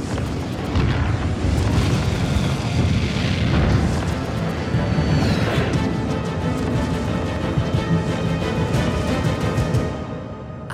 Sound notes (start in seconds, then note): 0.7 booming